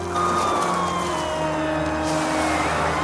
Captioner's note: siren